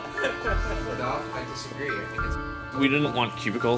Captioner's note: talking in background